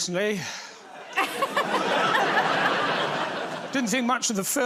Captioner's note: laughter